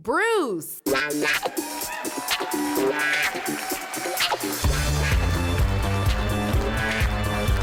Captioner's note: upbeat music; attendees cheering